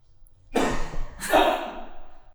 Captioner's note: man coughs